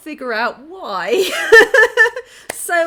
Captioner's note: laughing